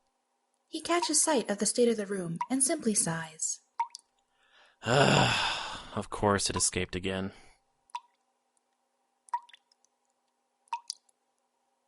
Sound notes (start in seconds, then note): 4.8 exasperated sigh; 7.6 dripping slows to a stop